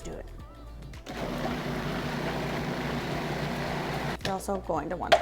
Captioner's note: blender whirring